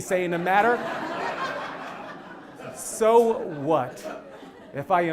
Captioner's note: laugh